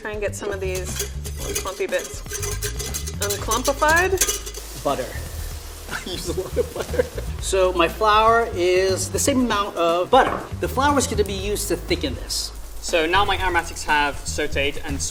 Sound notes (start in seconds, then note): 5.9 laughing